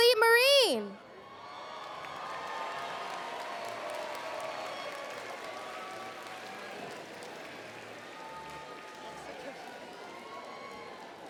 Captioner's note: applause